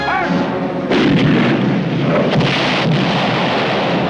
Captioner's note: cannon booming; explosion